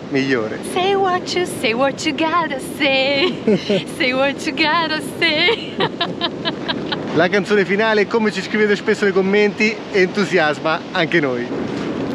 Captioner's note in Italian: Risate